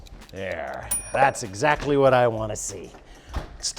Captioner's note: ding SFX